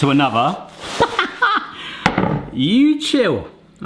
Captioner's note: laughing